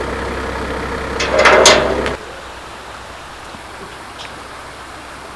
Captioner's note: haha